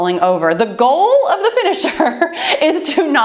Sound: timer beeps

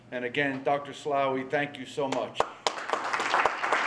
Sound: applause

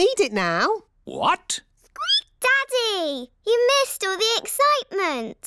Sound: squeaks

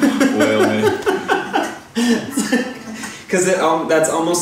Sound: laughs

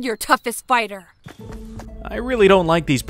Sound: footsteps gathering

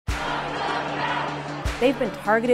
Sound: chant

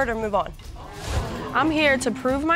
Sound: audience gasps

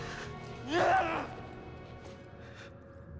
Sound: cries out in frustration

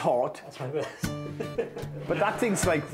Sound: laughing

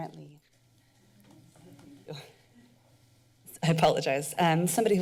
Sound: background chatter

